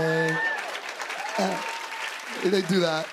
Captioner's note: cheers and applause